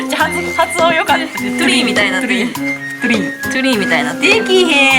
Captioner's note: laughs